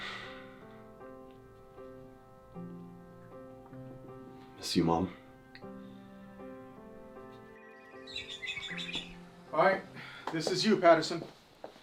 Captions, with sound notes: Miss you mom. (phone ringing) - All right, this is you Patterson.